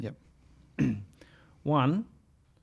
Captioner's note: throat clearing